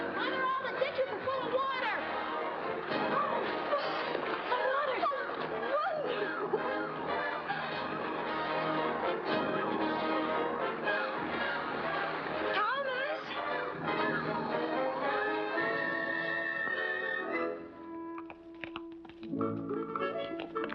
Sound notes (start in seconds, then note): 7.6 triumphant music; 7.6 water rushing; 13.3 triumphant music; 13.3 water rushing; 17.7 hooves trotting